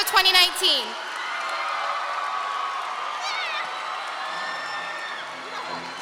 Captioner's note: audience and seniors clapping and cheering